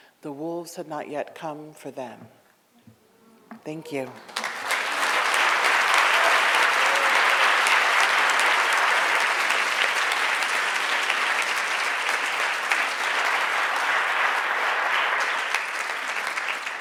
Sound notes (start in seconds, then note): 5.1 audience applauds